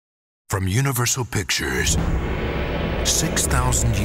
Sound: voiceover

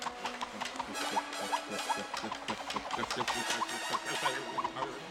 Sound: goalie Stammering

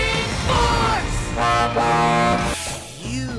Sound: honking

